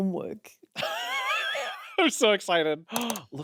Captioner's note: laughs; gasps